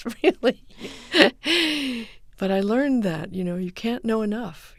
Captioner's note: soundbite of laughter